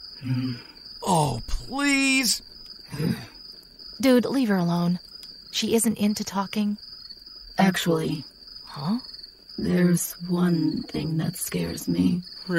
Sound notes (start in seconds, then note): 2.9 grunts